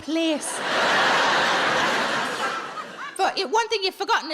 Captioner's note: audience laughs